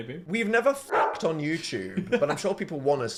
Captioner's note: bark